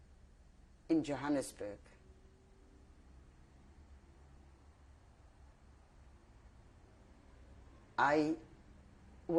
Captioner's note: pauses for 7 seconds